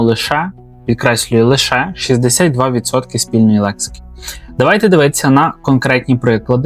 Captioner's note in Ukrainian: сопіння